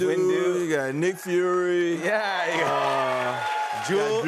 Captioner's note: cheers and applause